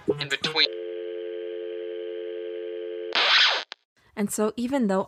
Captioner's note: tone dial, static cuts back to gabriela